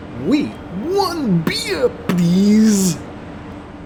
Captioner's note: off-screen, mimicking French Robot